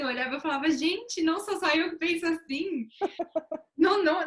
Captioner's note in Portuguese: risos